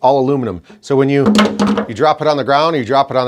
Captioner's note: clattering sound